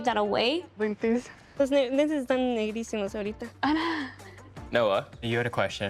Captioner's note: both speaking Spanish